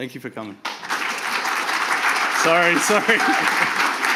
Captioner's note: audience applauding